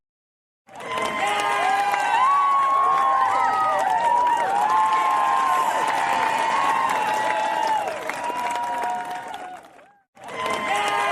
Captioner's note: all cheering